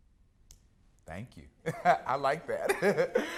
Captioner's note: laughs